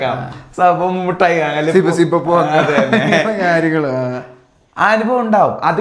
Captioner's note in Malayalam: പൊട്ടിച്ചിരി